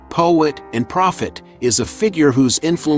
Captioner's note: professional, engaging tone